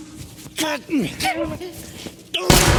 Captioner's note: all grunting